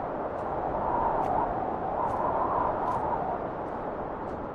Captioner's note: footsteps crunching continues